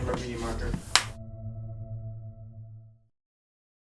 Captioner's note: clicks